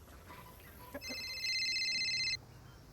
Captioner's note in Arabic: رنات الهاتف الخليوي